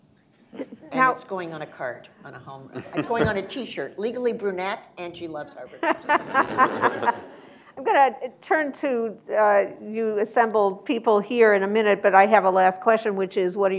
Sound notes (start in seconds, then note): 5.8 laughter